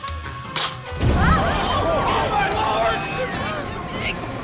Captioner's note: gasps